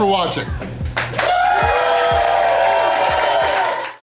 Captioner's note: crowd clapping and cheering